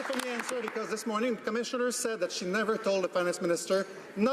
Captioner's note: some Applause